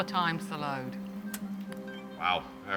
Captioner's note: loud crack